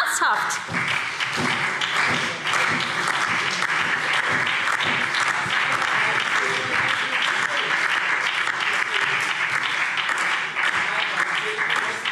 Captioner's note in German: Beifall SPD, Freie Demokraten und DIE LINKE